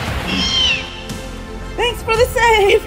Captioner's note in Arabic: أصوات فيلوسيرابتور